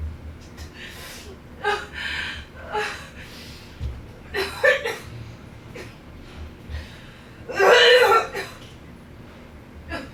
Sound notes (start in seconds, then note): 1.7 crying; 7.6 vomiting